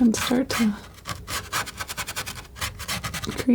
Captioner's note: scratching